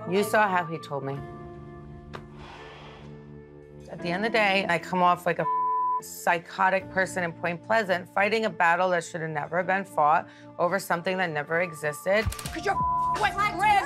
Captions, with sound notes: You saw how he told me. At the end of the day, I come off like a (beep) psychotic person in Point Pleasant fighting a battle that should have never been fought over something that never existed. Cause you're (beep).